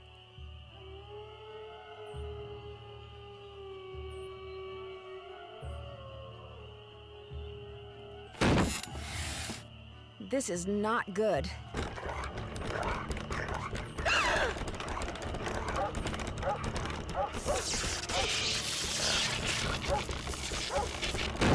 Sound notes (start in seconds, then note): 0.8 ghostly howling; 8.4 something slams against the kitchen door; 11.8 door rattling, dog growling, biting, snarling; 15.4 barking